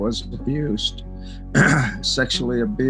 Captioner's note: coughs